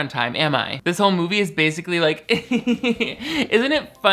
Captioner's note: laughing